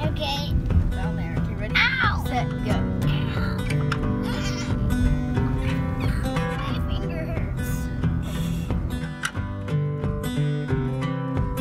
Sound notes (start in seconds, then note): 0.0 soft guitar music; 3.6 squeaking; 8.5 soft guitar music